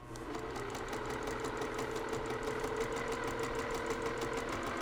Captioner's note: sewing machine whirring